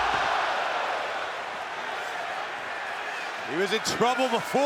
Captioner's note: crowd cheers